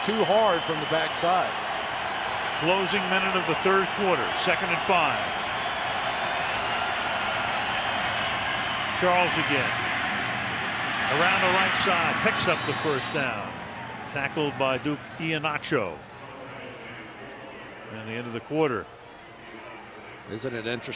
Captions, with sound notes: and pursue too hard from the back side. Closing minute of the third quarter. Second and 5. [cheering] Charles again. Around the right side picks up the first down. Tackled by Duke Ihenacho. [pa announcement] And the end of the quarter.